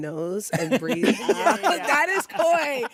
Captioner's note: all laugh